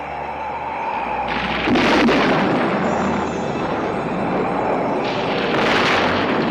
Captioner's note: thunder crashing